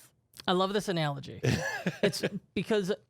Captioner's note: laughs